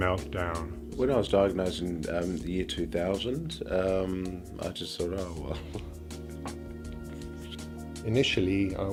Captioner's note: laughter